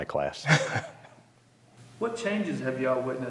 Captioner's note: chuckling